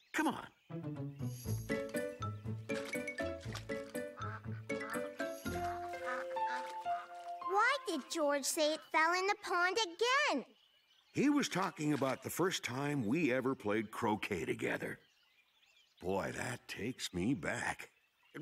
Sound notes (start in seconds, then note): 1.9 quack-quack